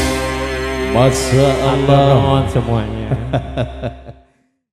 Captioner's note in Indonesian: tertawa